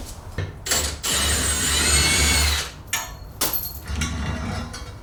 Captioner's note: drilling